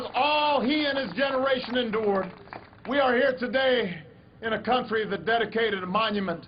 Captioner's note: applause